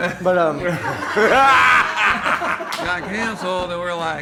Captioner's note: laughing